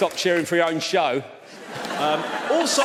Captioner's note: audience laughs